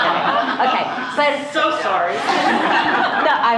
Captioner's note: laughter